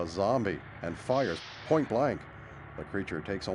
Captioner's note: gunshot